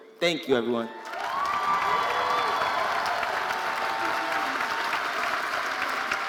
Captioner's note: audience cheering and applauding